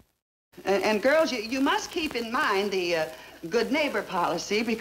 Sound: none

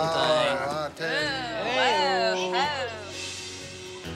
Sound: exclaiming

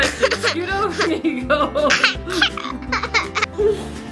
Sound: laughs

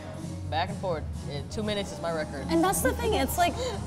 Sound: laughs

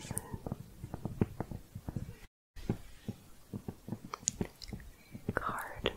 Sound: tapping continues

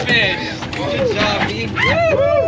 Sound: clapping; whooping

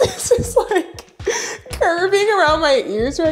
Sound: laughs

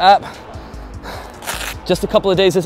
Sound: heavy breathing; velcro rips

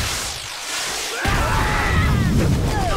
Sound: screaming

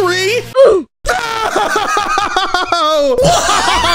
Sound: sobbing; laughing

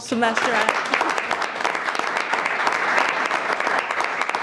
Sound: everyone applauds

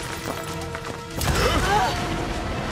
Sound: grunt

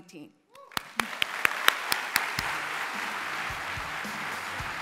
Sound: applause

